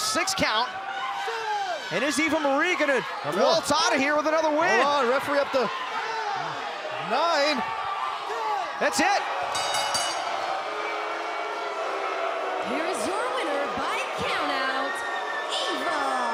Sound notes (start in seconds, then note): 9.5 bell ringing